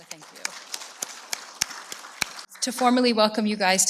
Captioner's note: audience applauding